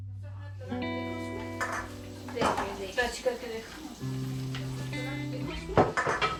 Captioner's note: soft music; people chattering